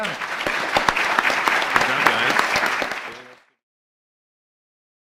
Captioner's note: audience applause